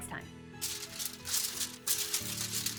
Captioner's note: paper crumpling; soft music